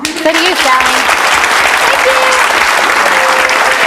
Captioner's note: audience clapping